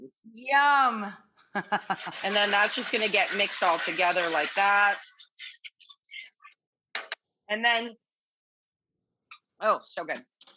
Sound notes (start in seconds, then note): 1.5 laughs